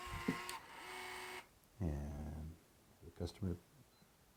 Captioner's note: buzzing